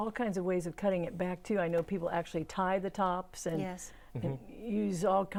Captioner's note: laughing